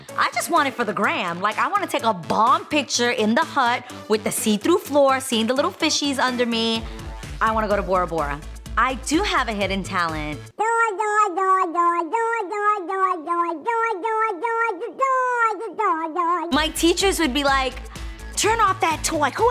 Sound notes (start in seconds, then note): 10.7 gurgling